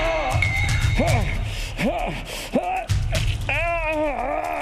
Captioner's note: Shepherd groaning